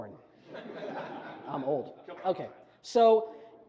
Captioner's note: audience chuckles